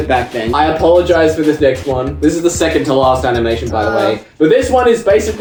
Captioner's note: groans